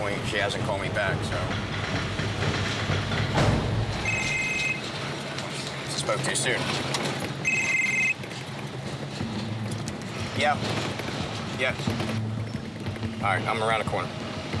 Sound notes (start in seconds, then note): 3.5 phone rings